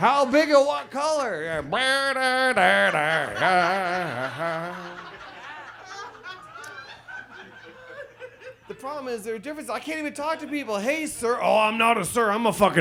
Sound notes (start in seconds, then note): 1.6 audience laughs; 1.6 imitates trumpet sound